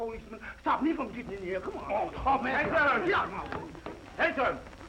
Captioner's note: all shouting